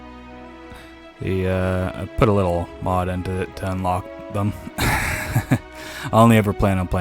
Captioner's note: more nervous laughter